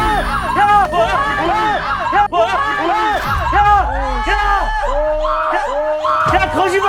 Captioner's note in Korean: 단체 놀람